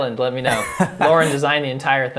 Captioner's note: dramatic laughs